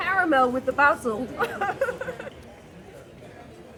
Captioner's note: laughing